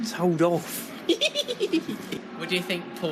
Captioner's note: giggles